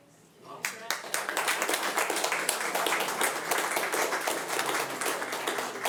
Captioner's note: audience applauding